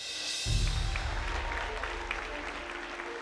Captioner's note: applause